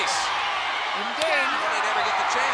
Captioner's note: hands thudding